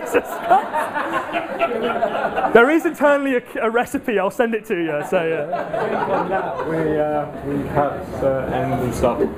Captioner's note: laughs